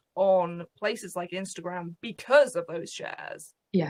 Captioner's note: none